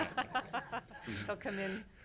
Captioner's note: laughs